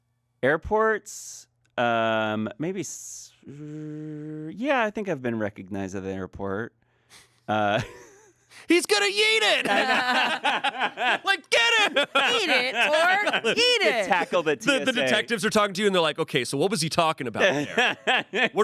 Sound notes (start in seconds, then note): 9.4 everyone laughs